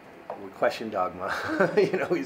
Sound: laughs

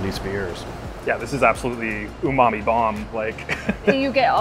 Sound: chuckles

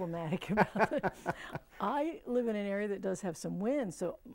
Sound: laughing

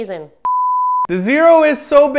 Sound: beep

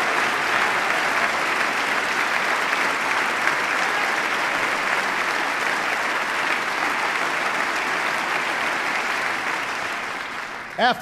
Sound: applause

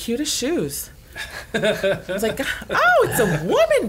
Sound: laughter

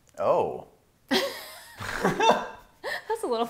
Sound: laughing

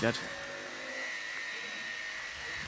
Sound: grinding noise

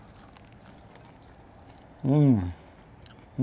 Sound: chewing

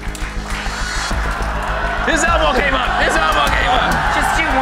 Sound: audience gasping

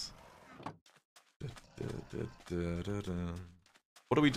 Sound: hums

